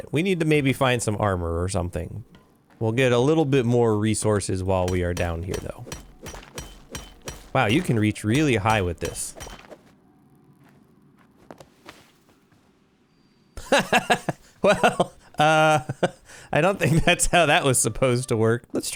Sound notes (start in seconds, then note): 13.6 laughter